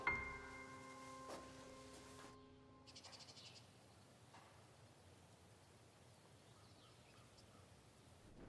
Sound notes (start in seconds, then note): 3.0 birds squawking